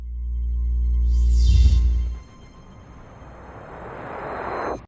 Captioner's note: sophisticated electronic ringing